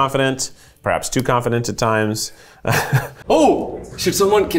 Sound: chuckling

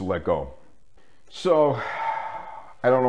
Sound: sigh

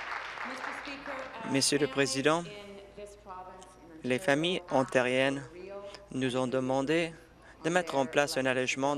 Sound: applause

